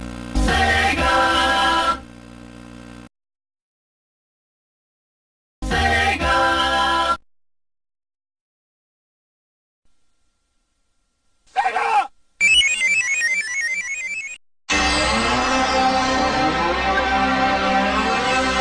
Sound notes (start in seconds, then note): 11.6 screaming; 12.4 descending video game sounds; 14.7 64-bit console startup music